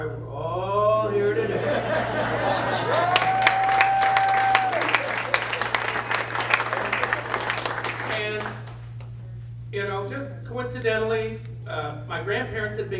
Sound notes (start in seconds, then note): 1.3 audience laughs and claps